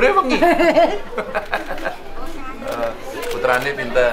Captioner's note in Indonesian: tertawa